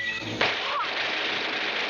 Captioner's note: gunshot; dramatic music